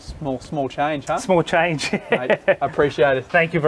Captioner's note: laughs